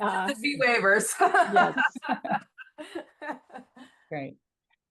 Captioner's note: laughing